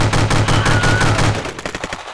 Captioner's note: scream